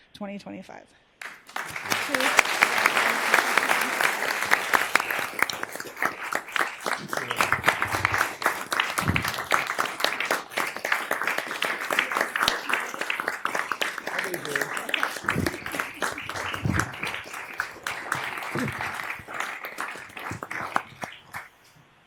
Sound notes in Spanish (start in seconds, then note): 18.4 aplausos